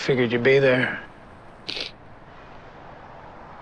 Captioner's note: Tom sniffles